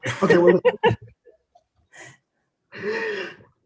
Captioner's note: laughing